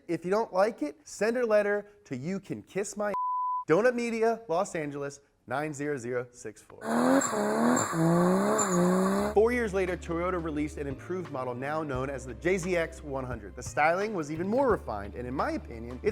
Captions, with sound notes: If you don't like it, send a letter to You Can Kiss My (beep), Donut Media, Los Angeles, 90064. (car burns out) Four years later, Toyota released an improved model, now known as the JZX100. The styling was even more refined, and in my opinion,